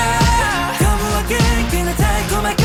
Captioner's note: brothers laughing with each other